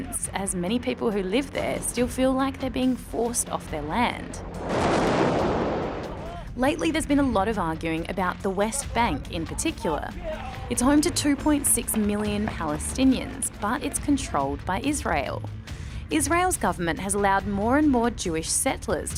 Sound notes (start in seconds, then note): 4.6 gunfire and explosions